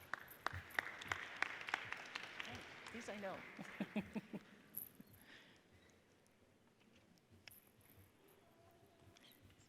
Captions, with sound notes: (audience applauds) Yours I know. (laughs)